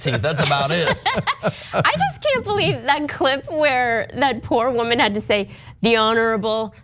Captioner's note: laugh